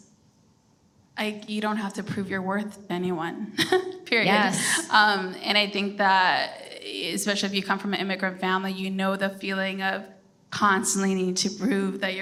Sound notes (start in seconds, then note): 4.3 chuckles